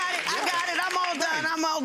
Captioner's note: audience applause